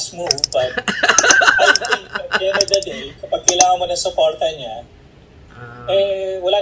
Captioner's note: laughter